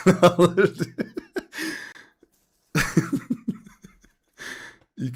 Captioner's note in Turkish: kahkaha